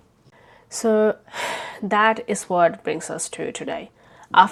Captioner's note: sighs